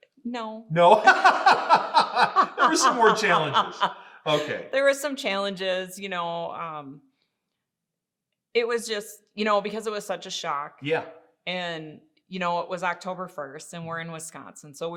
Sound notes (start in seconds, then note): 0.7 laughing; 0.8 both laughing